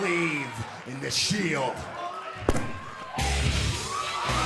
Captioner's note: crowd cheering